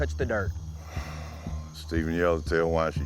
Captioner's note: sigh